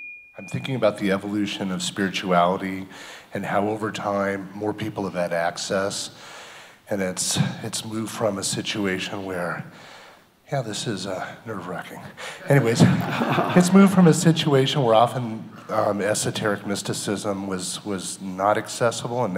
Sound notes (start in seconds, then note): 12.4 people laughing